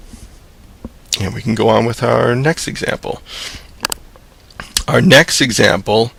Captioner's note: voiceover